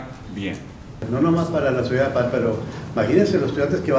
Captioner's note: in Spanish